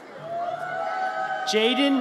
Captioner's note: audience cheers